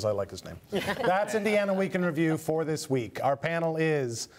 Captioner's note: laughter